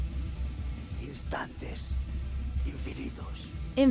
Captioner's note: speaking spanish